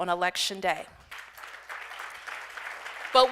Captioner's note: applause